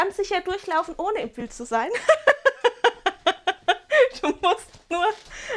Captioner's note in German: Gelächter